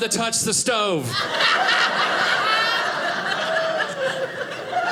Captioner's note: audience laughing